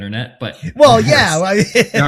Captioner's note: laughs